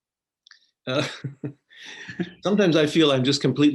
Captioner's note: laughing